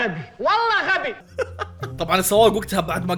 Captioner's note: chuckles